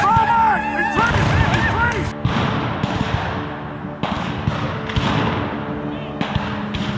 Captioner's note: guns fire